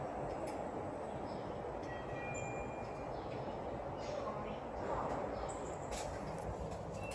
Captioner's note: chime